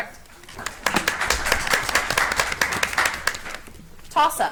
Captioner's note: audience applauds